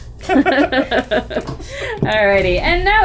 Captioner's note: all chuckle